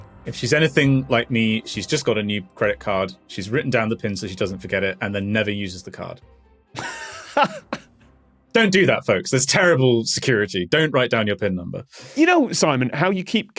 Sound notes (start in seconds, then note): 6.8 laughs